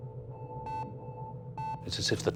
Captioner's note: monitor beeping